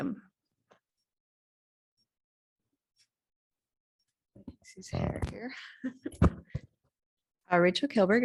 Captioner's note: laughter